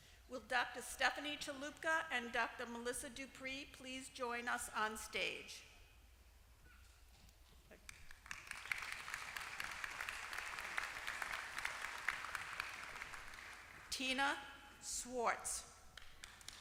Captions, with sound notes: Will Doctor Stephanie Chalupka and Doctor Melissa Duprey please join us on stage? [APPLAUSE] Tina Schwartz.